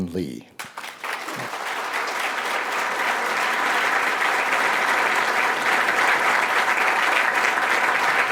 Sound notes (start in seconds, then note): 0.5 applause